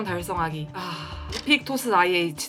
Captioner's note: sigh